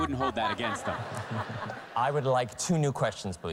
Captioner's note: laughter